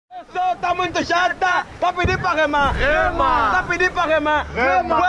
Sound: shouting in Portuguese

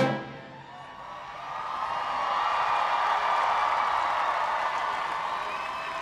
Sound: cheers and applause

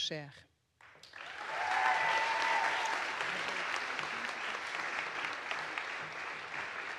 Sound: audience applauds; audience cheers

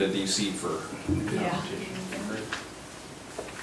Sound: murmurs

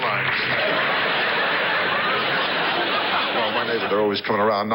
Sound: audience laughs

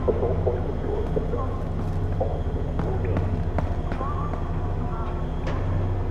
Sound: Muffled CP chatter

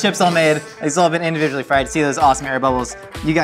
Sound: none

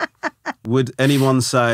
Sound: laughing

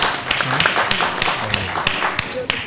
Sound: applause

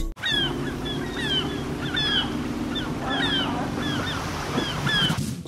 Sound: engine sounds and seagull cries

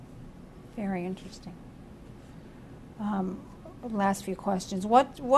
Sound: pauses for 3 seconds

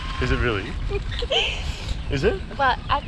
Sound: laughing

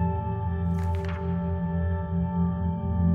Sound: slide flips; gentle music

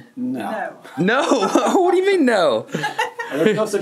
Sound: laughs

